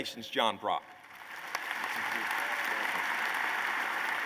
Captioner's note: applause